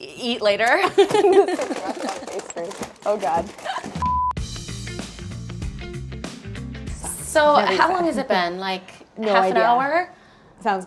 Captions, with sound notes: - Eat later? (laughter) This is left over pastries. Oh God. (high pitched sound) (upbeat music) - So, how long has it been? Like-- - No idea - Half an hour?